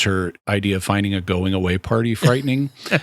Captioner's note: laughter